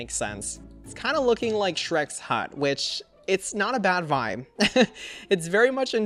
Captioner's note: laughs